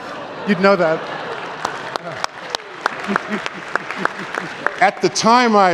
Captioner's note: applause